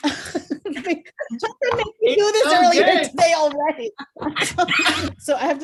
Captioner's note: laughter